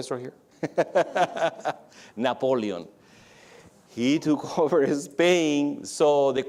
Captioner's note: laughs